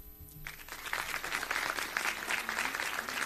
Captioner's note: applause